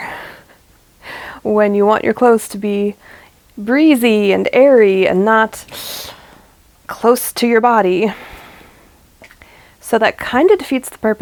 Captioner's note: sucks air in through teeth